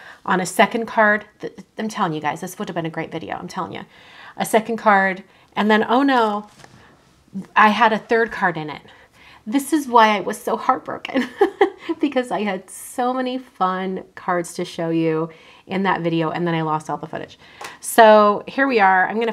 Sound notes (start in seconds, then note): 11.2 chuckles